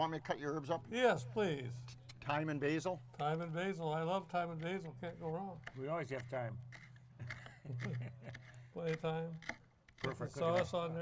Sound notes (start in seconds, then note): 5.7 herbs crunch repeatedly; 5.7 laughs